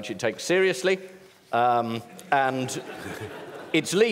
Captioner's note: laughter